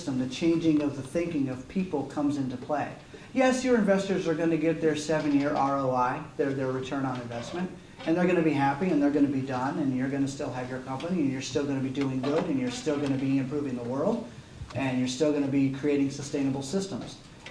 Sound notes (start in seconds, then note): none